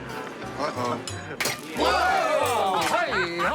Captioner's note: exclaiming